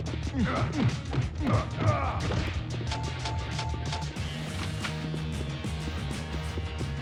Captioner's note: upbeat rock music; officers grunting; blows thudding